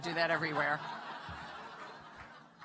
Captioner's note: laughter